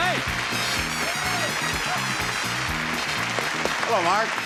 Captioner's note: audience applauds